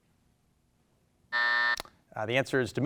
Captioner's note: buzzer buzzes